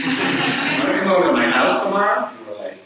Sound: audience laughs

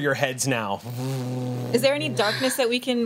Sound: imitates motor revving

